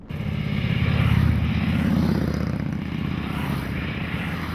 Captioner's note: motorcycle engines purr